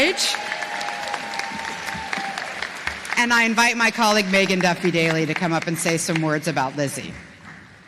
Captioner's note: applause